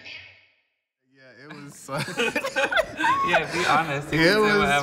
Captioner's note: people laughing